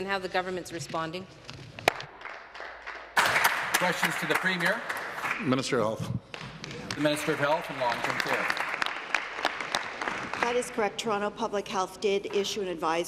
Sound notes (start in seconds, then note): 6.3 applause